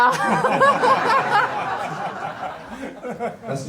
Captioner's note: crowd laughing